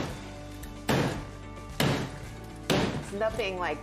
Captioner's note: banging